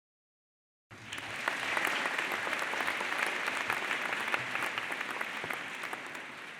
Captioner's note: clapping